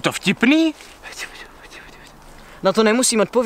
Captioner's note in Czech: Šeptaní